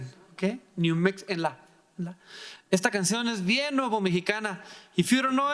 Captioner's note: speaking in foreign language